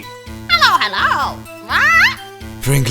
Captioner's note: squawk